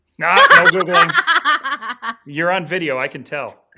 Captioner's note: laughing